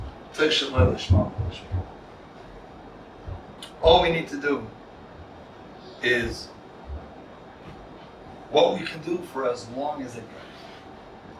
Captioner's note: Hebrew